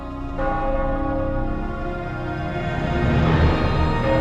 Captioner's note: bells